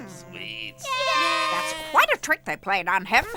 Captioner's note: kids cheering